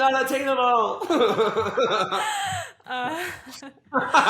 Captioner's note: both laugh